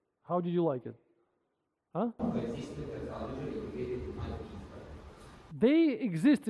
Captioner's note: man speaking in foreign language